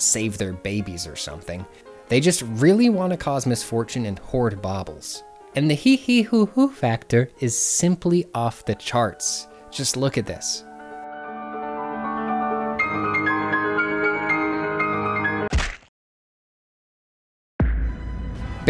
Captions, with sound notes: save their babies or something. They just really want to cause misfortune and hoard baubles. And the heeheehoohoo factor is simply off the charts. Just look at this. [delightful piano music] [a smack, followed by silence]